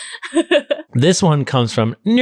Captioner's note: laughing